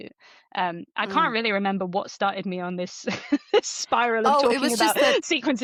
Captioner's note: laughs